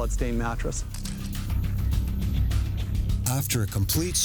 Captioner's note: camera shutter clicking